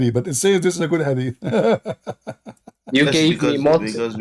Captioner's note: Ketawa